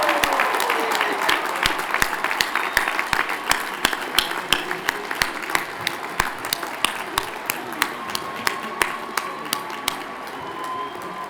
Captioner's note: cheers and Applause